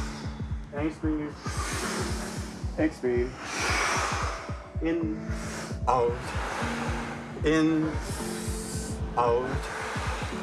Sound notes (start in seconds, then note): 2.2 exhales; 8.2 exhales